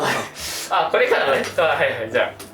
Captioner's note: laughs